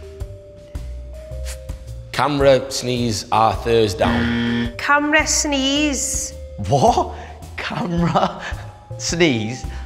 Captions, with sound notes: Camera-sneeze-a Thursdown? [INCORRECT BUZZER] Camera-sneeze... What?! Camera-sneeze...